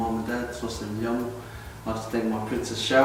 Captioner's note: speaks foreign language